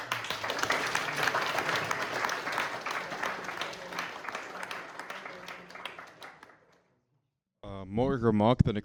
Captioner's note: audience clapping